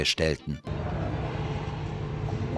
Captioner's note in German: Beklemmendes Dröhnen